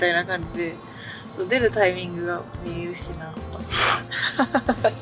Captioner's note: laughs